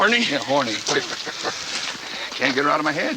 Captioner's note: Charlie chuckles